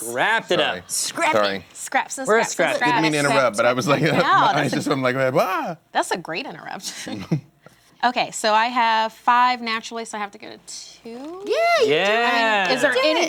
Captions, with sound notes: - Scrap it up. - Scrappin'. - Didn't mean to interrupt, but I was suddenly like, ah! - That's a great interrupt. (chuckles) Okay, so I have five naturally so I have to get a two? - Yeah, you can do it. - Yeah.